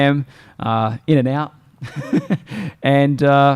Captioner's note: laughs